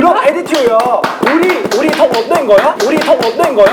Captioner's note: laughing